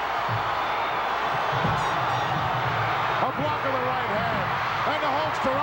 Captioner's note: crowd cheering